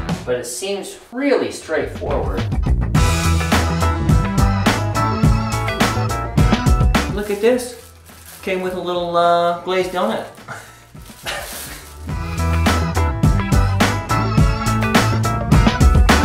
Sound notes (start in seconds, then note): 2.0 bouncy bass thumping beat; 10.7 laughing; 12.1 bouncy bass thumping beat